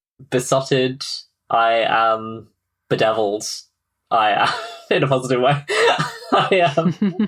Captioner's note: laughing